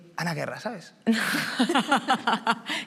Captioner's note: she laughs